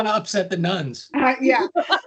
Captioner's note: laughing